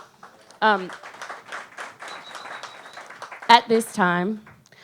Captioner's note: audience applaud